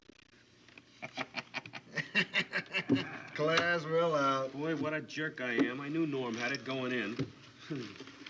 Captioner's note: Kelly laughs